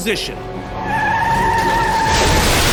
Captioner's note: tires screeching